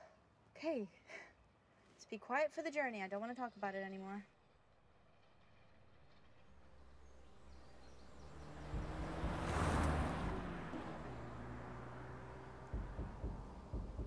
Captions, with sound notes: Okay, let's be quiet for the journey, I don't wanna talk about it anymore. (car engine revs)